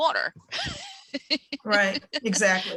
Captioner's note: laughs